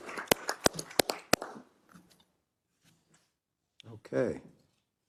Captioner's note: applause